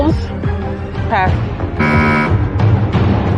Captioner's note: buzzer sounds